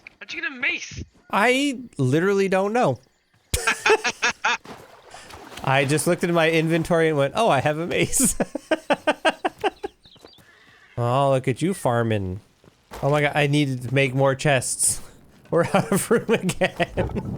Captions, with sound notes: How'd you get a mace? I literally don't know. [Laughter] I just looked at my inventory and went, "Oh, I have a mace." [Laughter] Oh, look at you farmin'. Oh my god, I need to make more chests. We're out of room again.